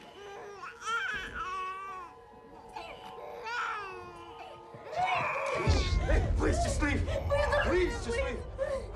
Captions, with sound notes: (CRYING) Please! Please, just leave. Please, don't hurt her! Please!